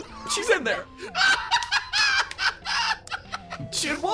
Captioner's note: laugh